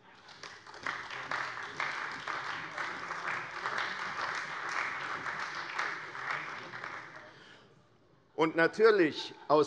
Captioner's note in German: Beifall bei der CDU und dem BÜNDNIS 90/DIE GRÜNEN